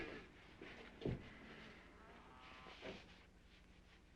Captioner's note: cows mooing